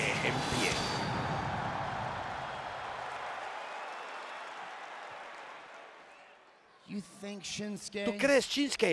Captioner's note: applause